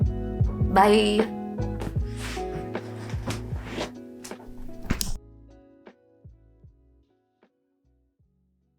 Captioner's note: camera clicks off